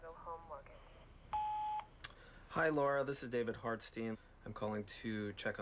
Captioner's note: beeps